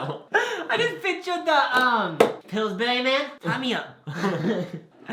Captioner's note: laughs; both laugh